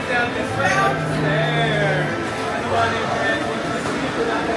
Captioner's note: guests chatting